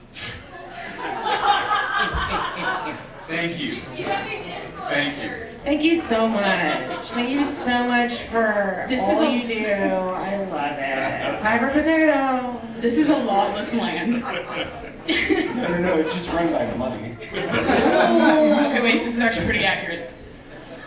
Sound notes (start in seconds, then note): 0.4 laughing; 17.2 laughing